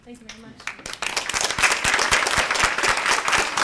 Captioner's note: applause